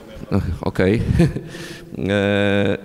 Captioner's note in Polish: śmiech